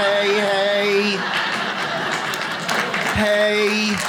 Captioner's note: audience laughs